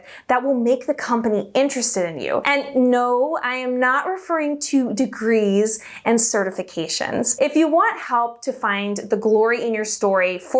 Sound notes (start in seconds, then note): none